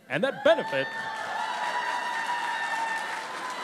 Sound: cheering and Applause

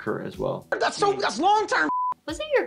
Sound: beep

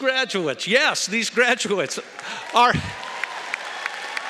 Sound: cheering & Applause

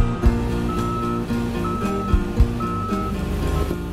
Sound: beeping

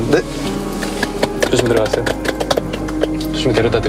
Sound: applaud

